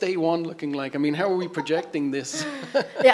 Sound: laughs

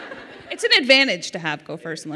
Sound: laughter

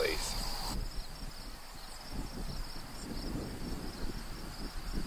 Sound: crickets chirping

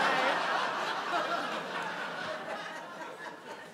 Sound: audience laughs

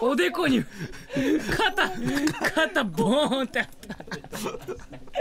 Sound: laugh

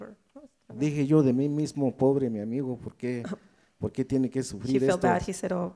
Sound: speaks in foreign language

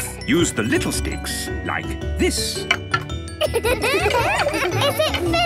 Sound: laughter

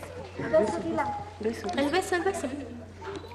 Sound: non-english speech

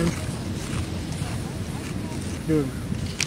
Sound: crunch crunch

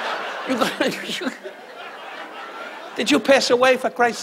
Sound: laughs; audience laughs

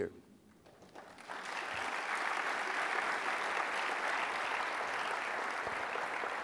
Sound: applause

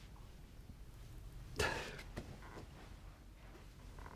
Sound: cries softly

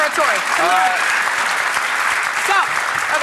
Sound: audience applauds

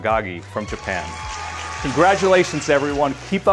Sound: crowd cheers and applauds

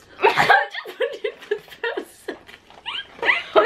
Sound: laughs

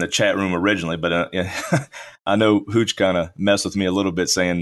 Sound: laughs

